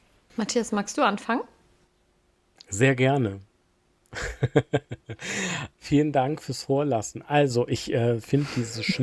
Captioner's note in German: gelächter